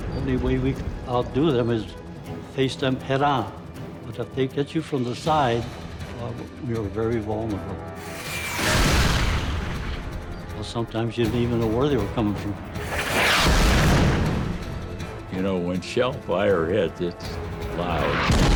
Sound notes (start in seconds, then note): 0.0 tank exploding; 8.4 tank exploding; 12.8 tank exploding